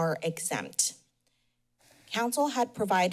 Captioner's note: pause